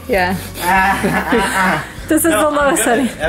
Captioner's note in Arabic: يضحك